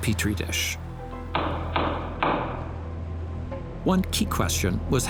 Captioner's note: gavel banging